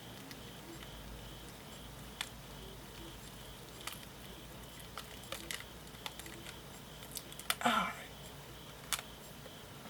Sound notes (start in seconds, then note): 2.4 rips